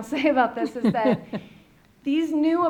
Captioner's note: laughs